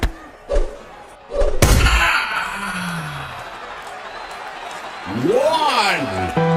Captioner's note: fists thumping; fist thuds; boxer groans